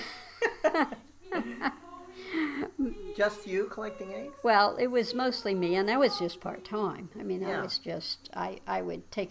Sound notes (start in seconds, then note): 0.0 laughs